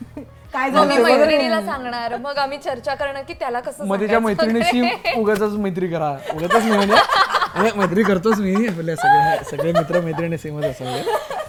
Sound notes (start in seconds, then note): 6.2 laughter; 11.3 laughs